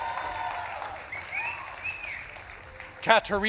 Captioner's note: audience claps and cheers